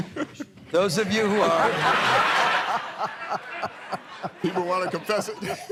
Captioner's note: laughter